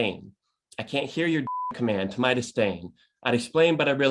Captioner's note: beep